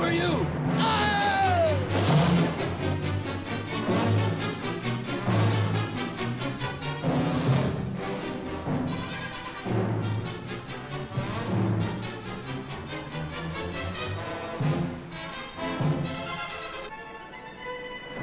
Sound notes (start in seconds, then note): 0.8 screams; 1.7 suspenseful orchestral music; 2.5 water splashes; 6.7 suspenseful orchestral music continues